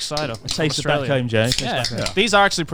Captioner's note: cans clicking